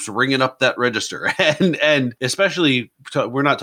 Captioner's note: laughs